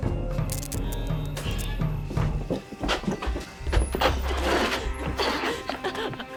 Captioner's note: suspenseful music; light buzzing